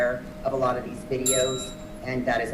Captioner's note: bell chiming